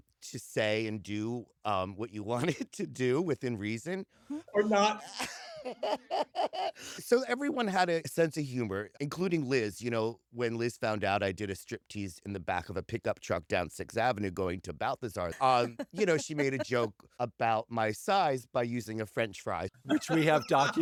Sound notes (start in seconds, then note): 5.9 laughs; 15.1 laughter; 19.8 laughter